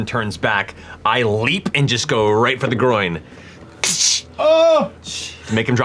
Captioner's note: impacts